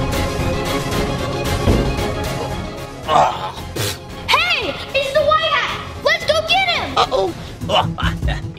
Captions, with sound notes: (White Hat grunts) - Hey it's The White Hat let's go get him. - Uh oh.